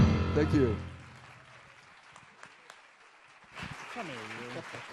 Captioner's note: audience applauds